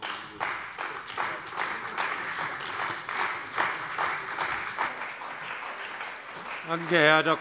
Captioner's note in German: Beifall bei der CDU und dem BÜNDNIS 90/DIE GRÜNEN